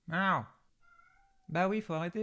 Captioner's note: speaking In Foreign Language